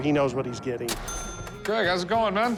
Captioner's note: cash register chime